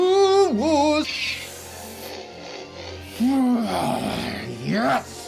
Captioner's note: heavy breathing